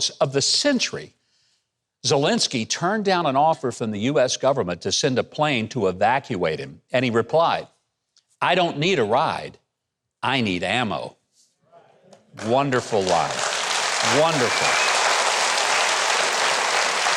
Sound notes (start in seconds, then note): 12.3 audience applauds